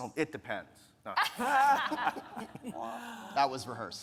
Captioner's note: speakers laughing